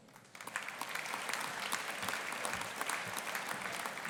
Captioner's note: audience applauding